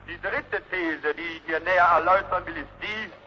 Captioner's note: none